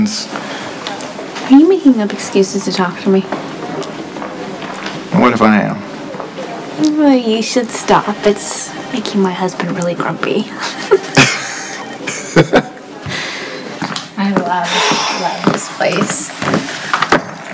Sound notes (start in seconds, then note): 10.6 both laugh